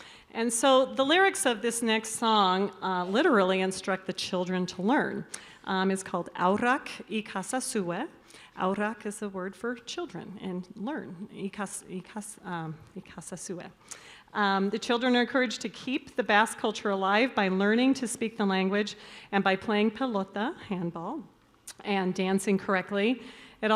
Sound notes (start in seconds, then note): 6.2 choirmistress speaking in Basque; 8.6 speaking Basque